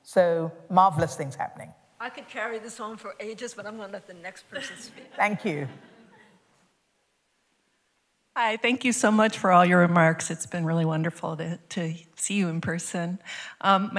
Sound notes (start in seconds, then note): 4.5 laughter